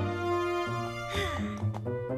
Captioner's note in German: seufz